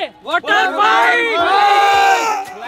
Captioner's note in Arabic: صراخ